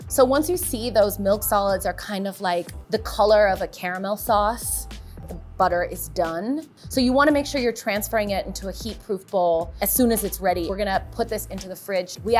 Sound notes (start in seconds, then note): none